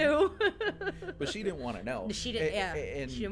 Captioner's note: laughing